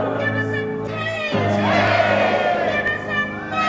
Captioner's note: crowd